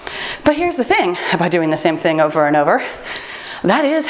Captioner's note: timer beeps